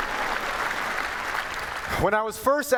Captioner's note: applause